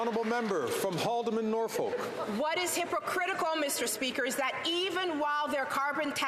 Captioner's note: some Applause